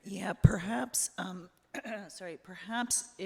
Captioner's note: clears throat